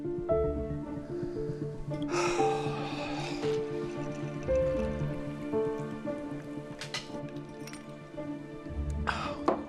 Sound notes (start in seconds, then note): 2.1 David sighs